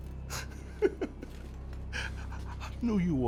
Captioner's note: person laughing